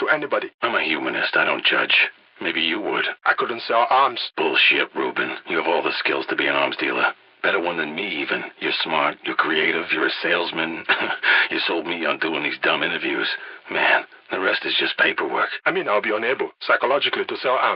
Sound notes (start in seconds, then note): 10.6 laugh